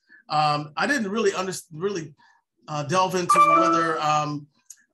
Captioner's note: computer chimes